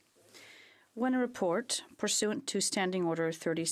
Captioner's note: speaking in French